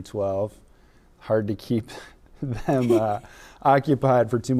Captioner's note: laughing